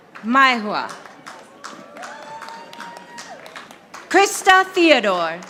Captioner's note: audience applauding